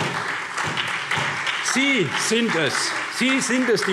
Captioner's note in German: Beifall SPD